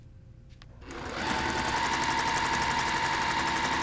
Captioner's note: sewing